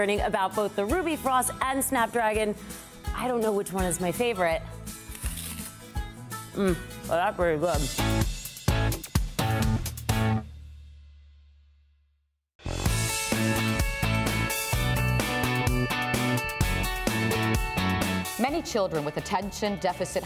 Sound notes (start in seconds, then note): 5.0 crunches apple; 14.9 bright music